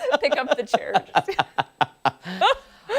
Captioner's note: laughter